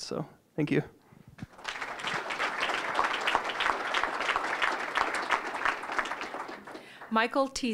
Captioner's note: applause